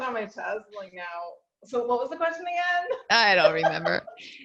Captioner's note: laughs